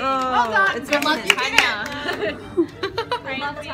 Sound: voiceover

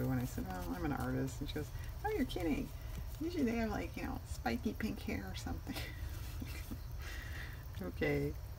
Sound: laughs

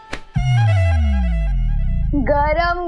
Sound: tapping

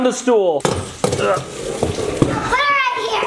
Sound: grunts

